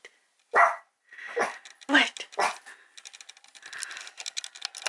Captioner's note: bark